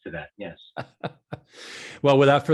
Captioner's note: laughing